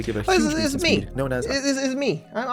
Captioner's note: voiceover